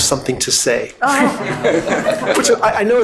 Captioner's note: all laughing